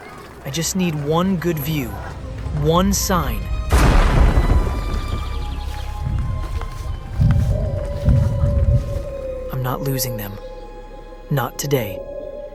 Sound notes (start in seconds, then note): 3.7 distant thunder